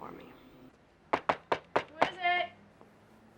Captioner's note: soft knocking